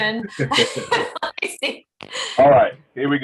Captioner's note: laughs